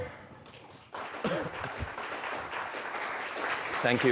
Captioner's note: audience applauds